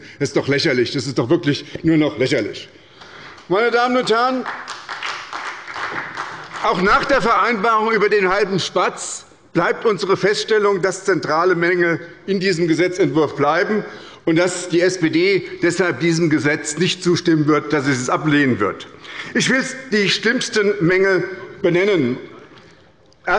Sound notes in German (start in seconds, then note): 3.8 Beifall bei der SPD